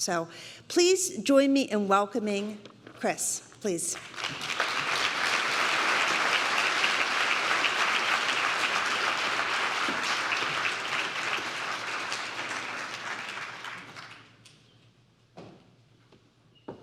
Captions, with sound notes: So please join me in welcoming Chris, please. [APPLAUSE]